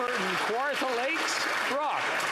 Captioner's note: some Applause